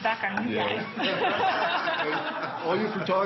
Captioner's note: laughs